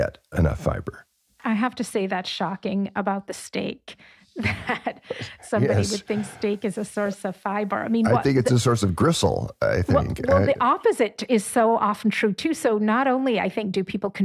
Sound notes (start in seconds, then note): 4.4 laughs